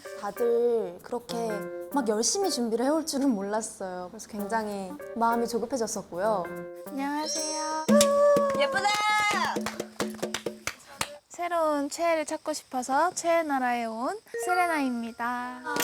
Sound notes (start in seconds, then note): 7.2 twinkling